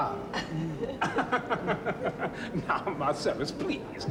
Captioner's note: augustus laughs